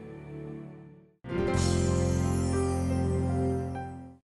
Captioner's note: logo whooshes